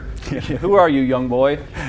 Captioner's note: chuckles